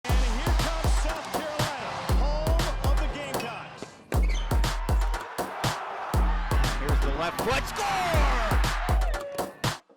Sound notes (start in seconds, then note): 4.8 crowds cheering; 9.4 crowds cheering; 9.4 upbeat music